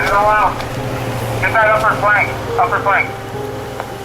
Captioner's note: man shouting